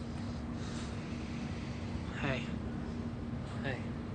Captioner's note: exhales loudly